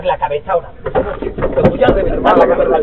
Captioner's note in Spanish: se escuchan golpes